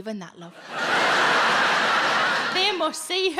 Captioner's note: audience laughing